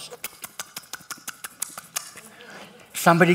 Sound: pastor smacks lips

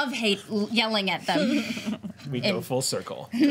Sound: laughter

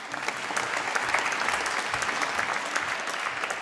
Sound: applause

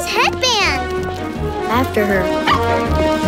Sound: barking

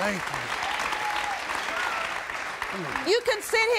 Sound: audience applauding

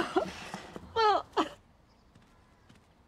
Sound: sobbing continues

